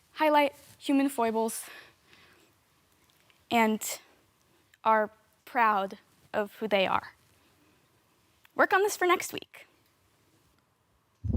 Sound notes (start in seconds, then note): 1.8 heavy breathing; 7.2 silent; 11.1 silent